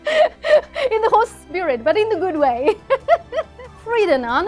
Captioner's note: laughs